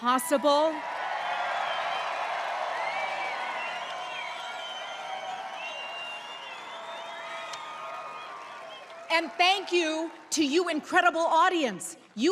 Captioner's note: applause